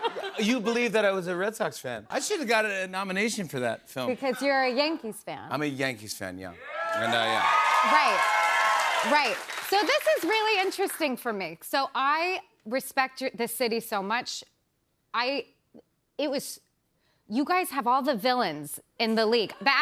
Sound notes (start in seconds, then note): 6.6 cheers and applause